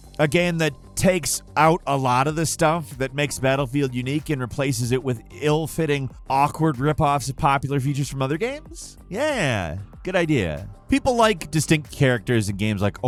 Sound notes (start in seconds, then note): none